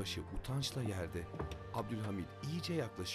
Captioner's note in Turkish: Kapı kapanma sesi